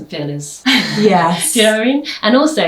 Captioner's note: laughs